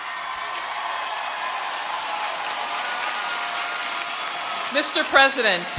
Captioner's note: cheering